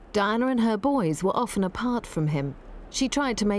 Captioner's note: none